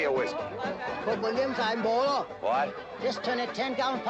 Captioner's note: speaking cantonese